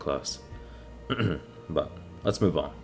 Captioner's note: ahem